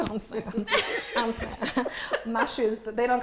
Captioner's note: laughing